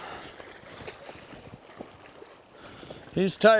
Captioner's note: water lapping